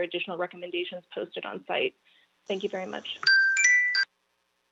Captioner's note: chime